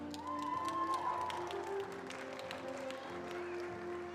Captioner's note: attendees applauding